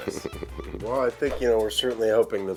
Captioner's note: giggles